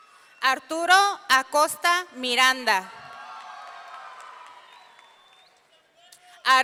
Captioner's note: audience cheering; audience cheering